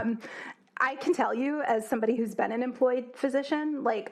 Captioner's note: laugh